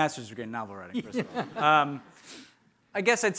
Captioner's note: laughing